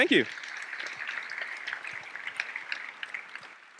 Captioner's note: applause